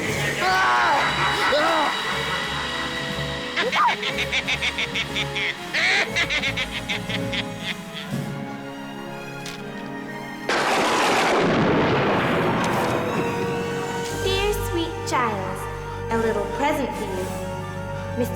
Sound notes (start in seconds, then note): 0.0 evil cackling; 10.4 thunder claps